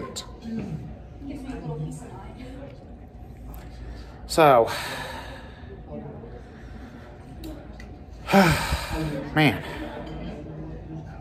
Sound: students chattering

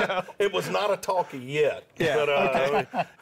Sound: laughter

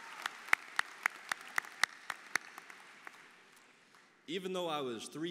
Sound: applause

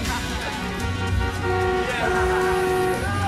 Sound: car horns honking

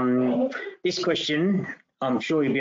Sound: person sneezing

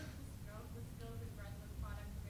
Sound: voiceover

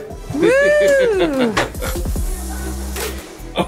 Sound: laughing

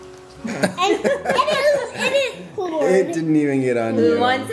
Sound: parents laugh

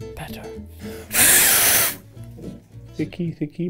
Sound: Ned blows

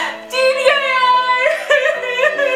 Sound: crying

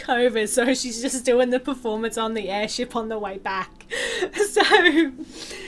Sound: laughter

